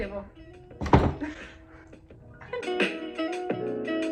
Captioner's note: shocked/proud laughter